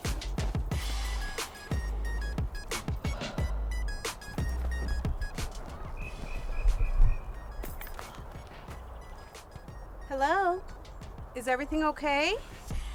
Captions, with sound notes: (upbeat music continues) (fence rattling) - Hello? Is everything okay?